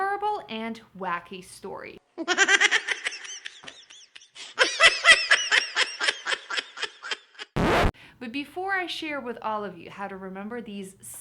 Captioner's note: laughter